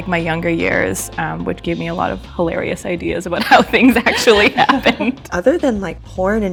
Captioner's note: laughter